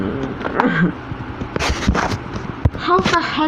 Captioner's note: grunting